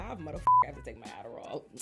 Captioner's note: beep